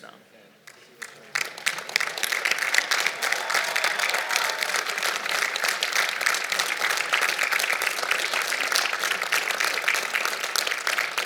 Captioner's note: applause